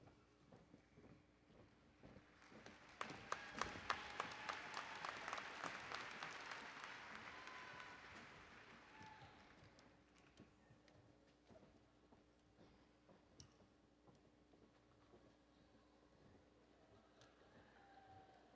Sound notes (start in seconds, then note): 2.3 applause and Cheering